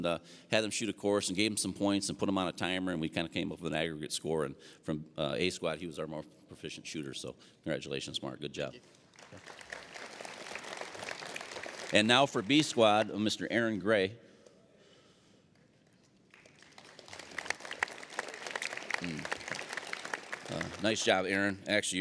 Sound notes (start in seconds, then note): 8.8 applause; 16.2 applause